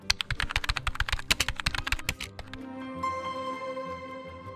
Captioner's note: keyboard clicks; bright music